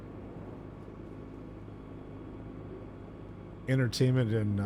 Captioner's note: none